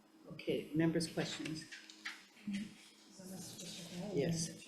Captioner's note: faintly speaking